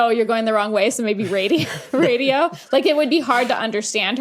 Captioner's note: both chuckle